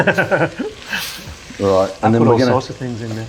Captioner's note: laughing